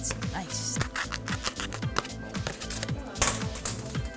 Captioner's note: cutting cardboard